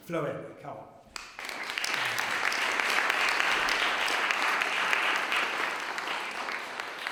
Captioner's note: applause